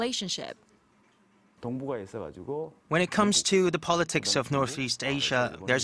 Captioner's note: Korean